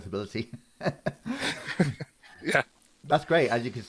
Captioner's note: laughs